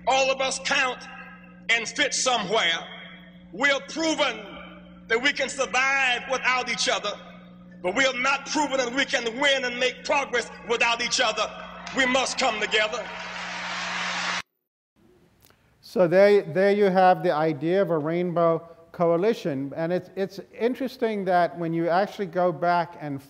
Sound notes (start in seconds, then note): 13.6 crowd cheers